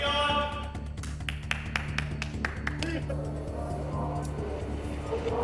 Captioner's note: clapping